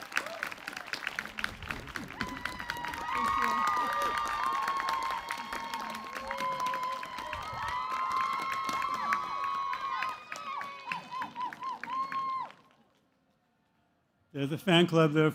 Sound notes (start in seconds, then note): 3.8 cheers